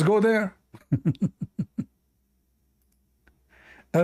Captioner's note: Ketawa